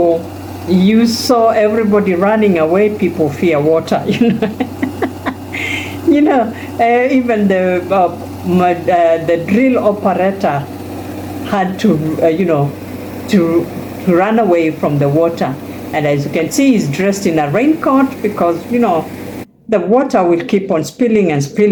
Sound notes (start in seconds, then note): 4.0 laughter